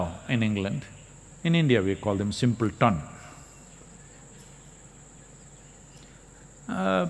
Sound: laughs

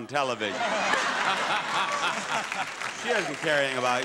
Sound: audience laughing

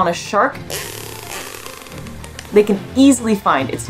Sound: background music; whale echolocation noises

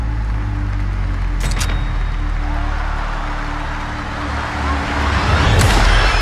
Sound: audience cheering; audience screaming

